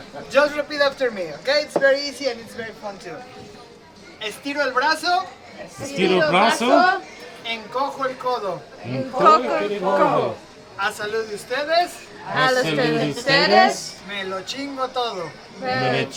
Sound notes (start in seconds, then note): 5.5 speaking in spanish